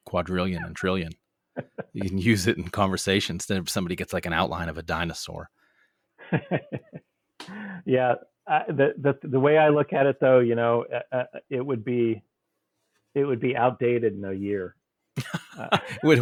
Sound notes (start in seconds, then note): 6.2 laughs